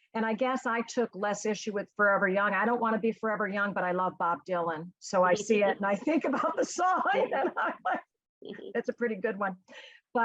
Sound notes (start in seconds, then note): 5.4 laughs